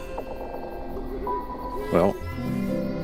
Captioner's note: owl hooting